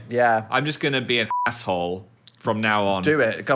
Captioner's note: beep